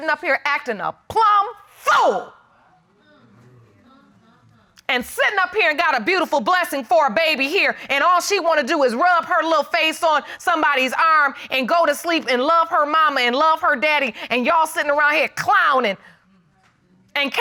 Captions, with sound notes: sittin' up here acting the plumb fool. [audience murmuring] And sittin' up here got a beautiful blessing for a baby here, and all she want to do is rub her little face on somebody's arm and go to sleep and love her mama and love her daddy and y'all sittin' around here clowning,